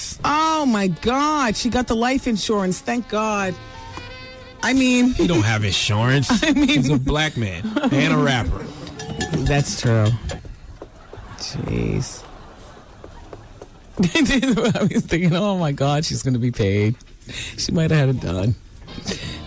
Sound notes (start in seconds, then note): 14.1 laughing